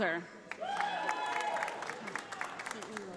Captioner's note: audience applauding